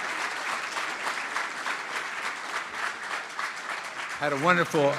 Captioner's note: cheering & Applause